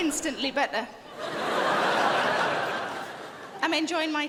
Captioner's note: crowd laughs